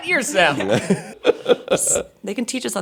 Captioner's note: laughing